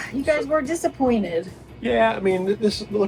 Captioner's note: sighs